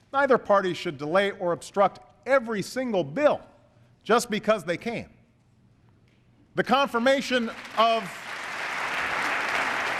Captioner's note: applause